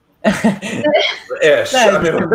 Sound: chuckles

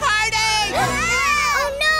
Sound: screaming

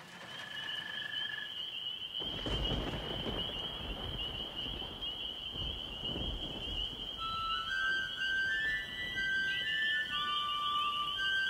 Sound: crickets chirping. Music begins

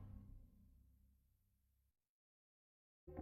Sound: silence

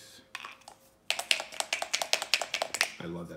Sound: dice shaking

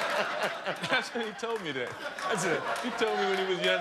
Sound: laughter

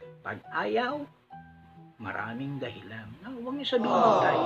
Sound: aawww

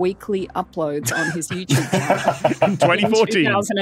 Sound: laugh

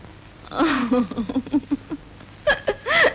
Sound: laughing

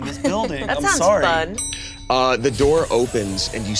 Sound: elevator dings

